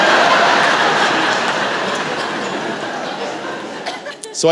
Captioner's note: laughter